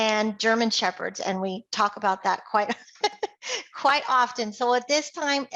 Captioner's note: laughs